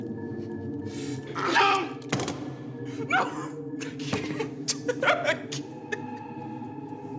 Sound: crying

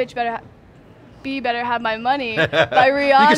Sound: laughs

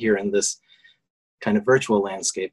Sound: none

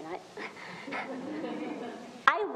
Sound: audience laughs

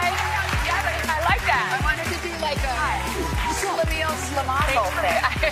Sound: cheers and applause

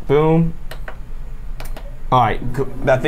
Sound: buttons clicking

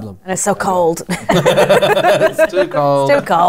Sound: laughter

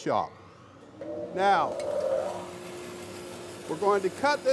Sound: machine starts

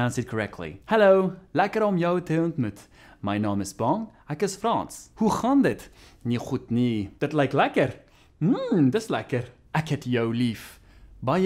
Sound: speaking Afrikaans

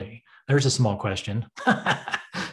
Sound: laughs

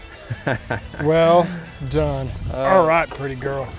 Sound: chuckles

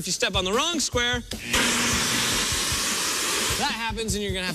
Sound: alarm sounds

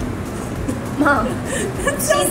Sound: both giggling

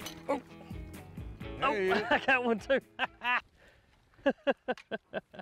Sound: laughs

